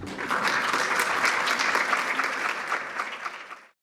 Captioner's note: audience applauds